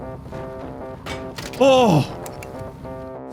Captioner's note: thunk-click